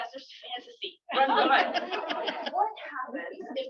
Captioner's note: laughter